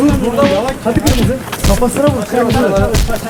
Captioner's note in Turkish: kavga sesleri